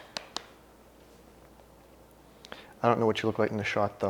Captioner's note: patting